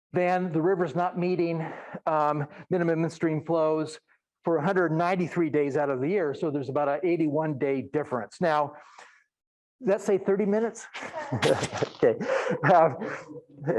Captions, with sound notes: then the river's not meeting minimum stream flows for 193 days out of the year, so there's about a 81 day difference. Now, does that say 30 minutes? (laughing)